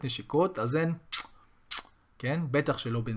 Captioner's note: kisses on the cheek